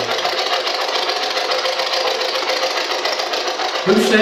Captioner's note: white Noise